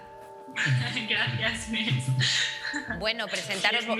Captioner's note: laughs